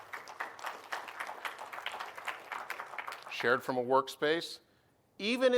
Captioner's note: applause